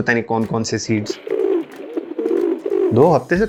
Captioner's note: bird sounds